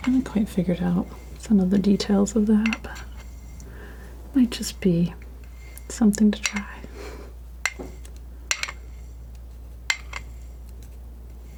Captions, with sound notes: I haven't quite figured out some of the details of that, but... Might just be something to try. (scratching)